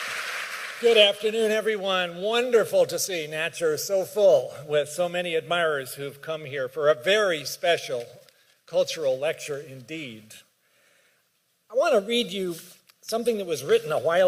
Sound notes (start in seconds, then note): 1.6 applause